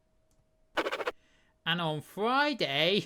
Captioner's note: scribbling sound